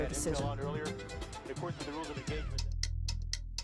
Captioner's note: radio chatter; clock ticking